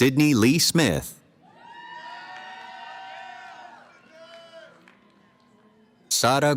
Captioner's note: cheering